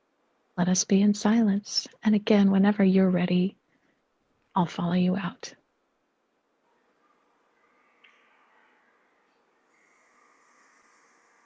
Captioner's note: 50 second pause for silence